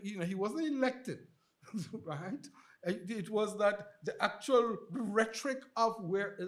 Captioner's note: chuckles